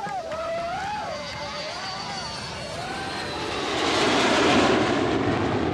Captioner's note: plane engine running